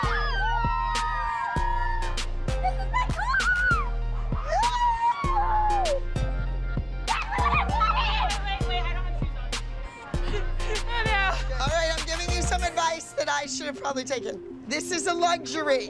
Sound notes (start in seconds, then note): 0.0 cheering and shouting; 7.4 both shouting